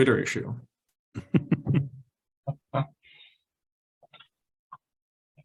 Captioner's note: laughing